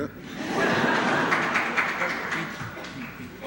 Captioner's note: laughter